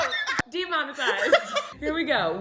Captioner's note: laughter